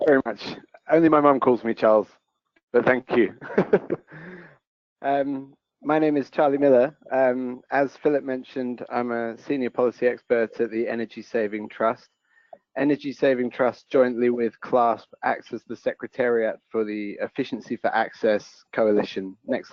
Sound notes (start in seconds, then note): 5.2 laughs